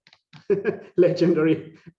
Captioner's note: laughing